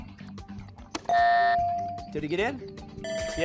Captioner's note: buzzer